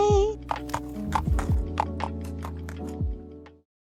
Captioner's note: hoof steps